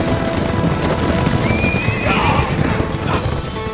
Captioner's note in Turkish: At kişneme sesi